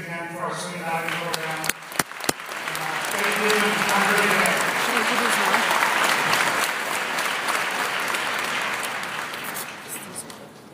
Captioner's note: applause